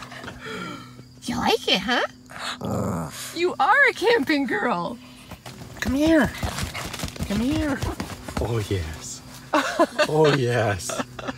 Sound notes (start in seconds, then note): 2.2 friendly growl